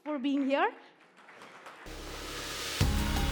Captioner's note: applause